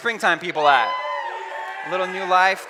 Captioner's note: cheering